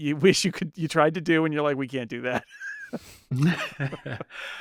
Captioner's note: both laughing